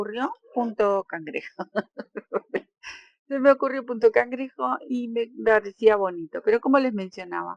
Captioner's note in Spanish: risas